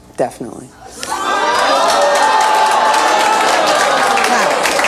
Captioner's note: audience gasps